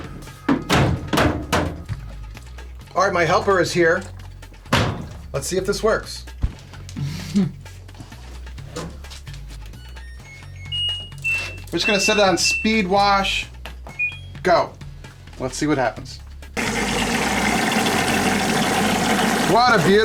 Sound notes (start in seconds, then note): 10.0 washing machine beeping; 13.9 washing machine beeps; 16.6 water gushing